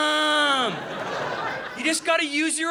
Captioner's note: audience laughing